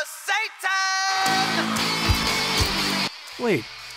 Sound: crowd cheers

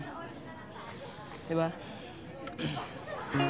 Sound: sighs

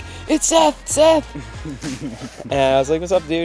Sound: hosts laugh

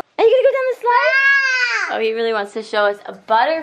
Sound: yelling

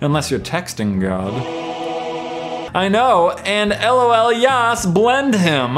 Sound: none

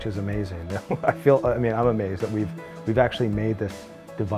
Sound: laughs

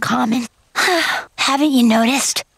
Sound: sighing

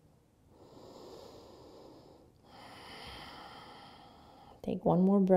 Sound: breathing

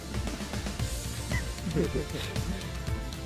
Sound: giggling

